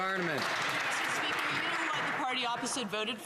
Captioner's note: some Applause